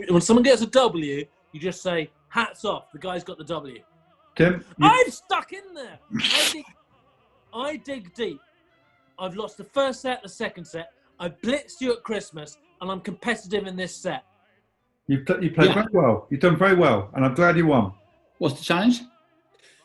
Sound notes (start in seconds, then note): 6.0 sniggering